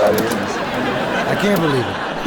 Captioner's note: audience laughing